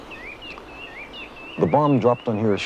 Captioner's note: birds chirping